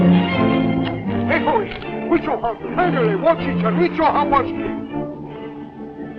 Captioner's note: speaking Native American language